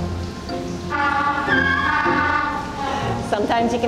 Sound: penguin braying

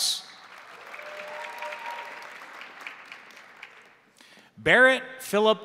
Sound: crowd applauding; crowd cheering

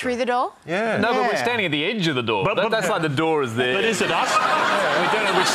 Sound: laughter

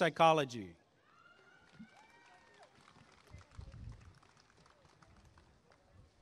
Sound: applause and cheering

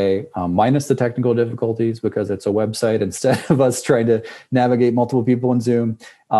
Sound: laugh

